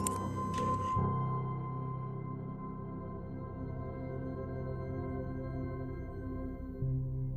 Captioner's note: mechanical whir